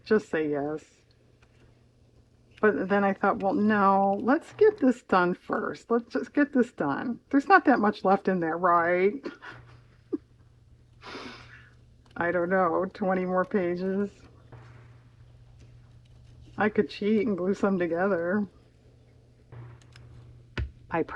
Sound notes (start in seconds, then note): 9.2 laughs